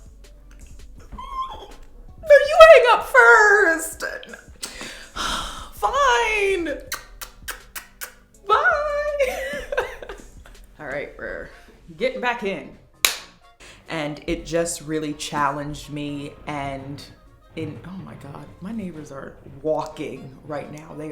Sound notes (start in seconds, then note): 6.8 kisses